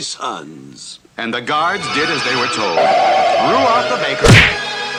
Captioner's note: smack!